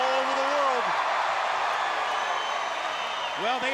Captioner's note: crowd cheers